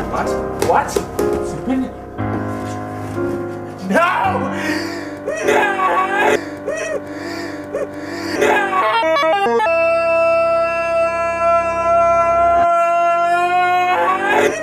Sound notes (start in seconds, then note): 4.5 deep breath